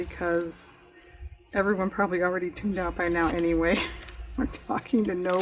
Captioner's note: laughs